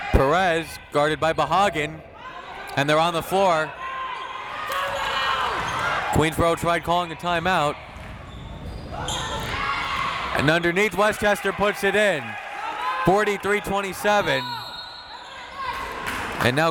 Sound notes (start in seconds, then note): 8.9 crowd members shouting; 14.3 whistle tweeting